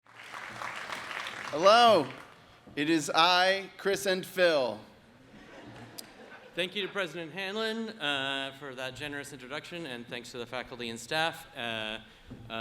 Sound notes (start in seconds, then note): 0.0 audience applauds